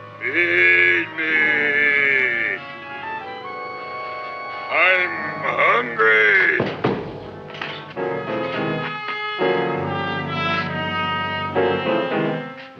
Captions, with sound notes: Feed me! I'm hungry! (chair clatters) (dramatic music)